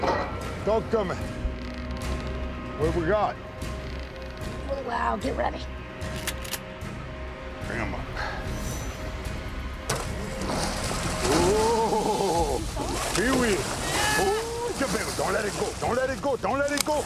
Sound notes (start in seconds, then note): 6.1 rifle cocking; 13.5 straining